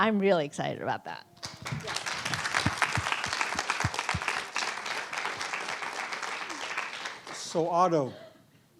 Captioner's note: applause